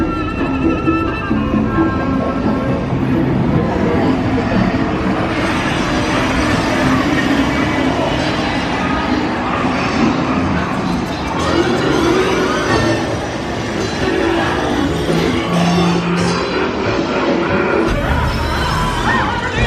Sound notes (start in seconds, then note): 12.0 dramatic music; 14.5 gears ticking; 16.1 Pete cackles